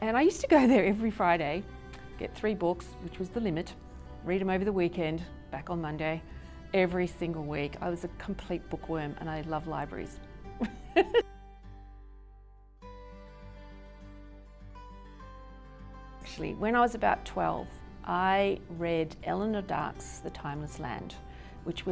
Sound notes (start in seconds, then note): 10.6 laughs; 12.8 gentle music